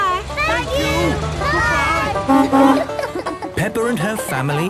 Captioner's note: honking